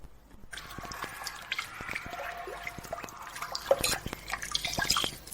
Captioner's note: water dripping